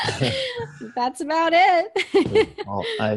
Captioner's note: laughs